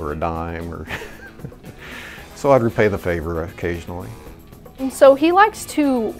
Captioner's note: laughs